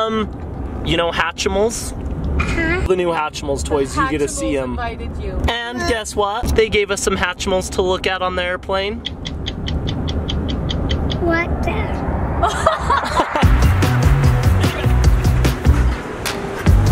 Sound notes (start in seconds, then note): 9.1 ticking; 12.5 laughing; 13.0 upbeat music plays